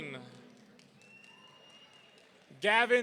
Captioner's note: audience cheering